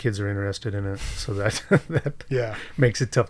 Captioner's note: chuckles